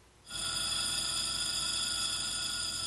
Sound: wheel grinding

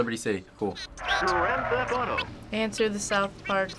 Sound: voice-over

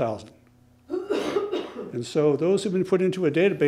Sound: person coughing

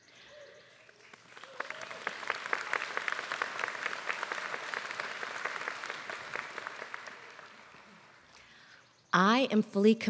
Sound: applause

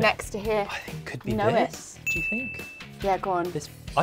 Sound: bell dings

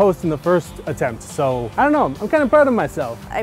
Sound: none

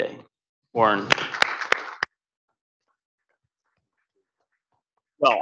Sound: audience clapping

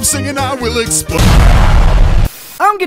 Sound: explosion

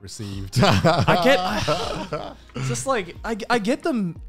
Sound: laughing

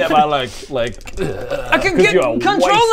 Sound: eerrrrgrgggh

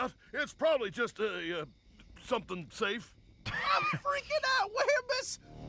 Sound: laughs

